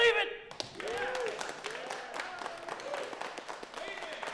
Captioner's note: crowd clapping